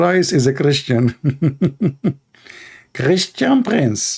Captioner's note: Ketawa